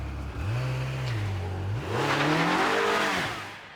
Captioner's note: engine roaring